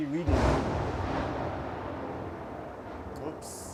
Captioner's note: thunder